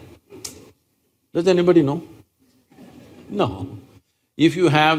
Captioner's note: few Laugh